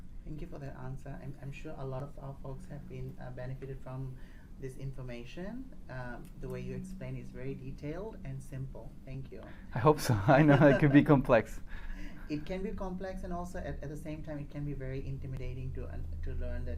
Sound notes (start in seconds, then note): 10.0 chuckles